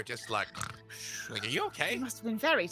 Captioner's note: snoring